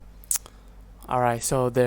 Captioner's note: clicks tongue